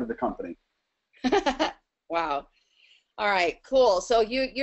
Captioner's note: laughs